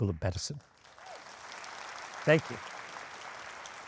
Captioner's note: audience applauding